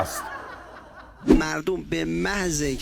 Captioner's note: laughter